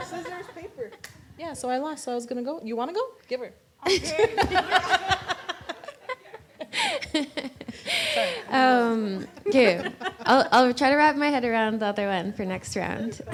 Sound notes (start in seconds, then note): 3.8 laughter